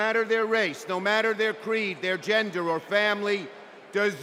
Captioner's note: cheers and applause